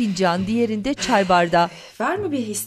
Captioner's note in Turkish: İç çekme sesi